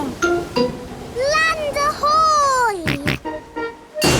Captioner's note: snorts